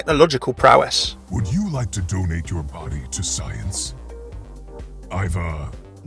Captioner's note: voiceover